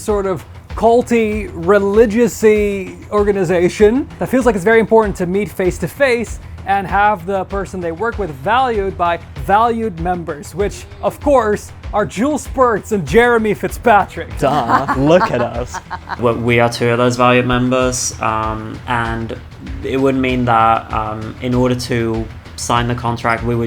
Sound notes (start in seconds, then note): 14.4 laughing